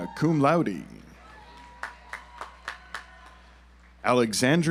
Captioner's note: audience applauds